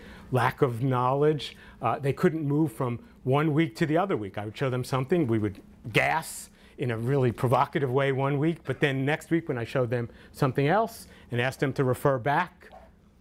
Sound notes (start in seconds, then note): none